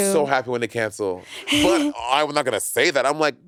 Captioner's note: chuckling